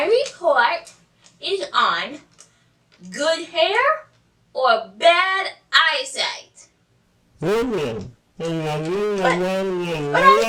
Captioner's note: feedback Noise